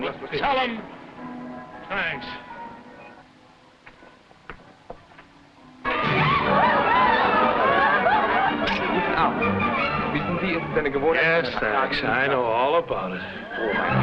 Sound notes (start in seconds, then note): 5.9 partygoers shouting and yelling; 9.5 man speaking foreign language; 13.7 man speaking foreign language